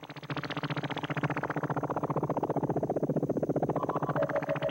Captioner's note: electronic noises